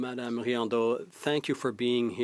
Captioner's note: speaking French